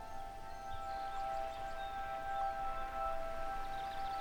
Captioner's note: birds chirping, water rushing